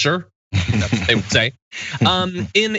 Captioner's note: laugh